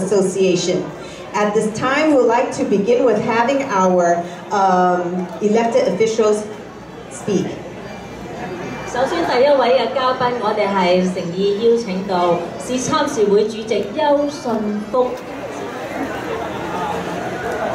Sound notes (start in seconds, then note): 8.1 woman repeating the introduction in Chinese; 14.1 general crowd sounds, no dialogue